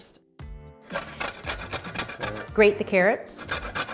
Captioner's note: grating